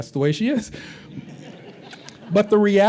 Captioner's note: laughter